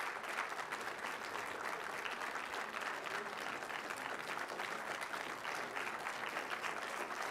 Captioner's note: applause